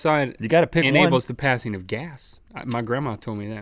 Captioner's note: none